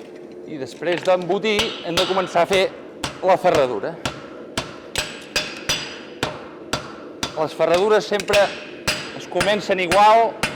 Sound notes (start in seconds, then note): 4.0 repeated metallic blows with the hammer